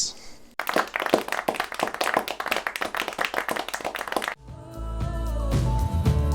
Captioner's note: scattered applause